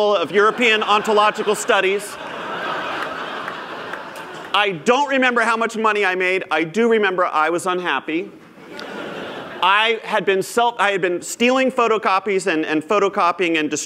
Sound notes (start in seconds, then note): 3.2 laughter; 8.5 laughter